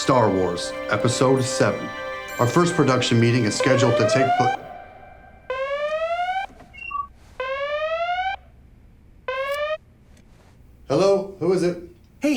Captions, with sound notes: Star Wars, Episode VII. Our first production meeting is scheduled to take place-- (alarm going off) (phone clicks) Hello, who is it?